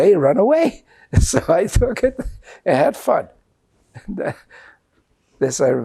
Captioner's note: laughing